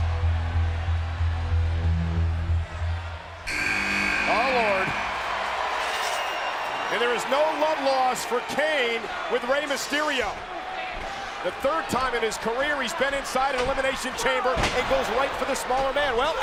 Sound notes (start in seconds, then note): 3.4 buzzer buzzes